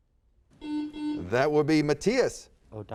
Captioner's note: buzzer sounds